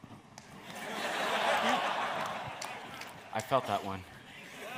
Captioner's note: audience laughs